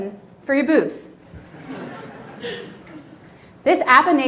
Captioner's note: audience laughs